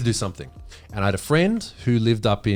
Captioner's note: sighs